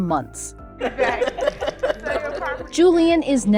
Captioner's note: laughter